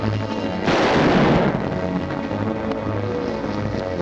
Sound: gun fires; tense music

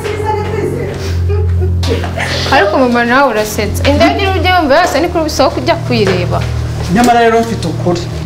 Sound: laughing

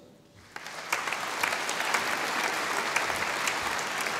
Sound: audience applauding

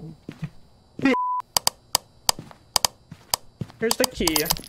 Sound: flashlight spam clicks on and off

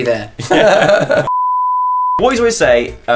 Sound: laughing; beep

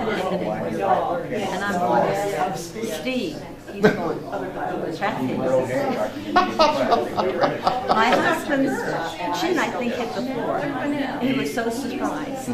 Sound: both laugh

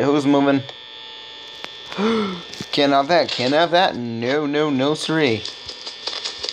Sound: gasping horrifyingly

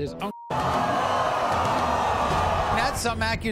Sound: audience boos

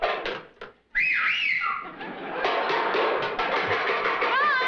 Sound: whistling

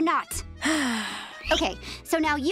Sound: sighing

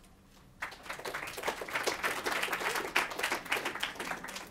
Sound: applause

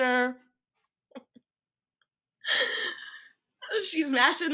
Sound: laughing

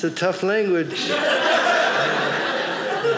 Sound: audience laughing

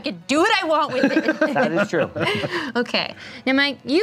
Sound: laughing

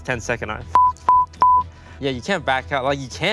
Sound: beep

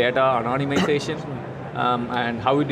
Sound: cough drowns out speaker

